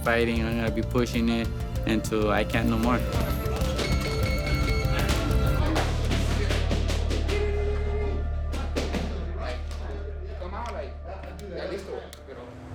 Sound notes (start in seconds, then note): 2.6 beeping; 5.8 indistinct conversations